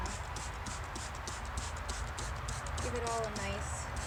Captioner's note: spraying water